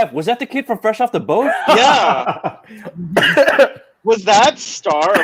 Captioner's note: laughing